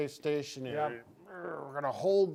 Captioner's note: grunting